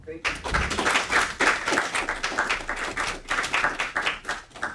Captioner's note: audience applauding